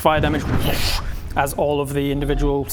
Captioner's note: woosh!